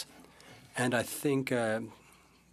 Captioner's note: speaking French